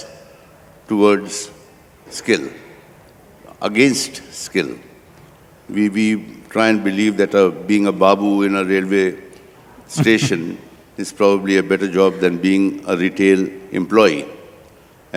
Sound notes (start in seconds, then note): 10.0 Sadhguru laughs